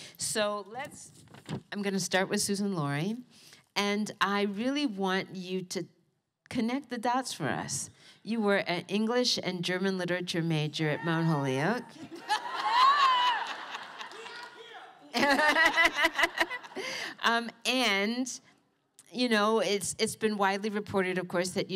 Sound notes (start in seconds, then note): 15.0 laughter